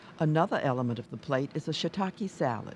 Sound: voiceover

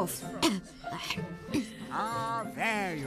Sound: cough!

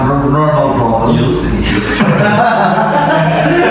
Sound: laughing

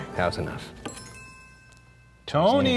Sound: chimes chiming

